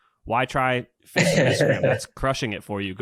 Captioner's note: laughs